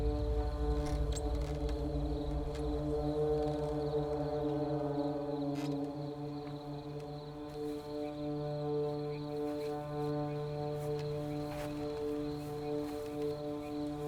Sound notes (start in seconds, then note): 0.2 crickets chirping; 0.2 eerie, menacing music; 6.2 shuffling footsteps; 6.6 eerie, menacing music